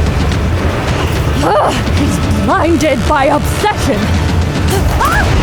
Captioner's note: grunting; painful yell